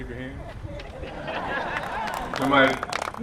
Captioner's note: laughter